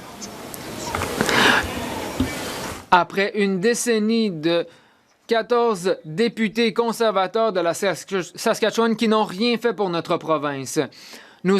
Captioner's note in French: voix de l'interprète